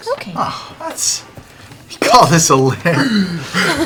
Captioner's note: scoffs